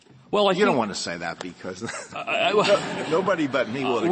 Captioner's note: laughter